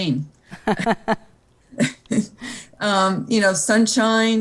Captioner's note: laughing